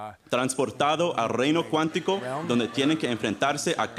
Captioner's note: laughter